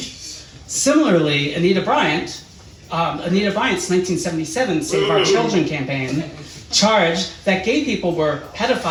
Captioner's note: audience boos